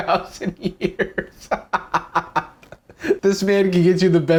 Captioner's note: laughs